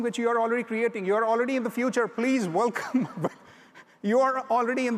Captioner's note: laughs